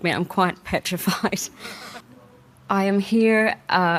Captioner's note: participants laughing